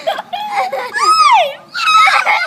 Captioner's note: more wild laughter